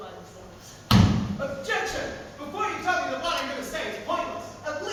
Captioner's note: stamps foot